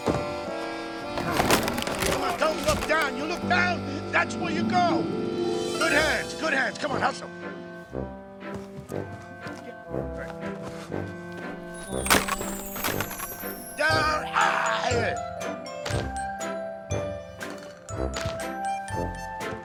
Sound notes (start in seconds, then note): 0.3 calm music; 7.8 calm music; 14.2 grunting; 16.0 calm music